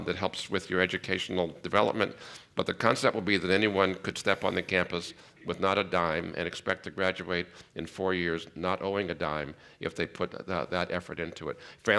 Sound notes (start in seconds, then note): none